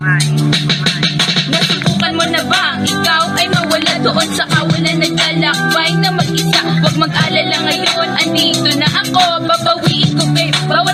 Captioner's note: sound of portable speaker after repaired